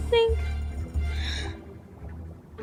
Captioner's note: gasp